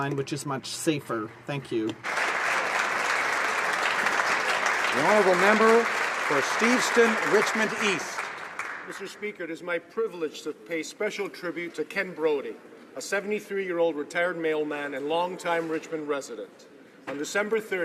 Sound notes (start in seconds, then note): 5.3 applause